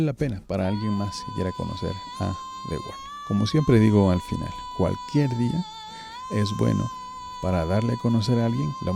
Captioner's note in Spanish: lloros